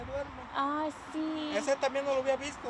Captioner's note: speaking in Spanish